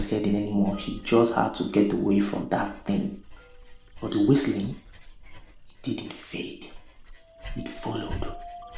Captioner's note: whistle